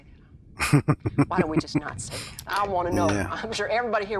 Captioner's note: chuckling